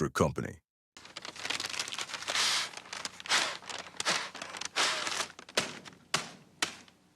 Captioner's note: crumbling paper